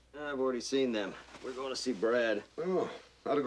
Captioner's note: sighs